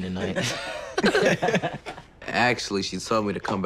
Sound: everyone laughing

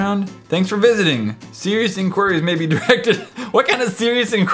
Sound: laughs

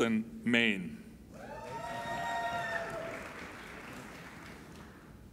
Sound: applauding and cheering

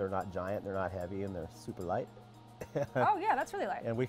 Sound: laughs

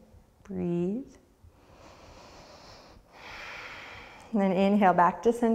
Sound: deep breath

